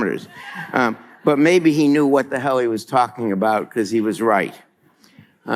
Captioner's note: laughter